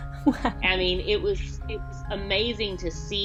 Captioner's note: laughs